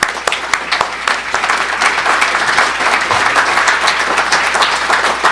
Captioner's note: audience applauding